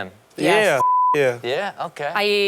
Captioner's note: beep